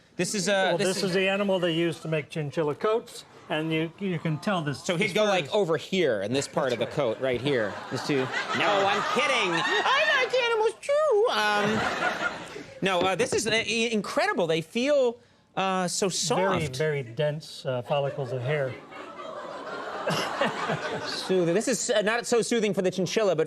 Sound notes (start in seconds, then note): 19.4 audience laughs